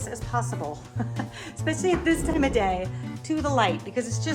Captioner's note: laughs